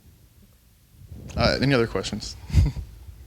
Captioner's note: chuckles